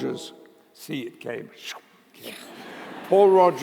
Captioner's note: laughter